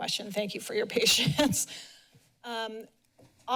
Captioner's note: chuckles